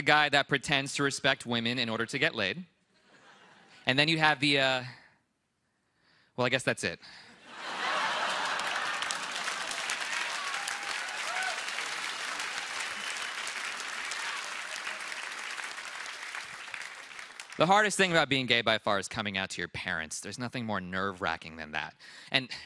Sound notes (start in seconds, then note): 7.3 laughter; 7.8 applause